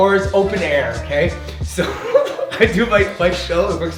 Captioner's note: laughs